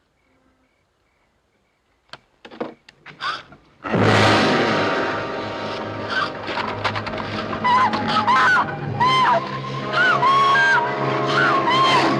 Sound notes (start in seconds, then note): 2.7 gasping; 3.8 growls lowly; 3.9 ominous music; 7.2 screaming and gasping loudly